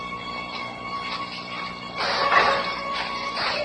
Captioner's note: clank